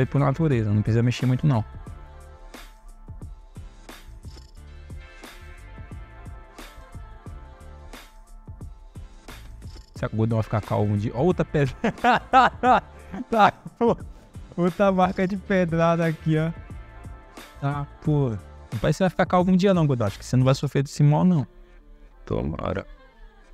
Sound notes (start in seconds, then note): 11.6 laughs